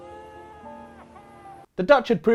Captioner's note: screams